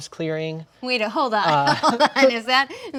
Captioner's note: laughs